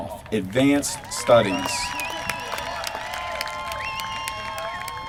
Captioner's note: applause